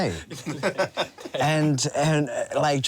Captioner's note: laughs